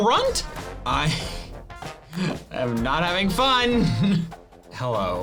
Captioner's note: laughs